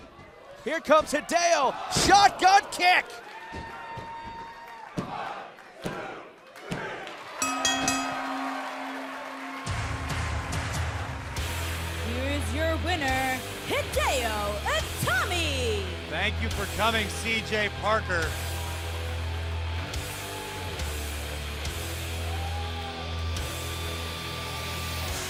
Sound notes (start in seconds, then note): 7.4 bell rings; 10.1 cheers & applause